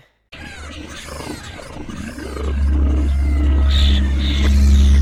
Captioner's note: creepy monster squawking